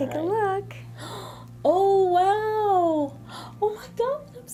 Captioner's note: gasps